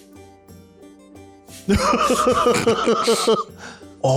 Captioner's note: laughter